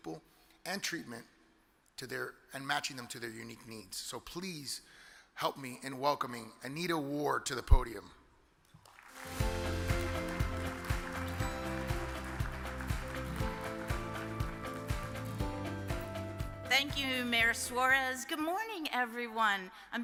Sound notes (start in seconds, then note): 8.8 audience applause; 9.1 uplifting music